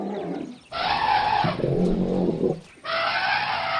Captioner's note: roaring